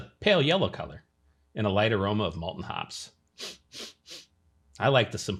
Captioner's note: sniffs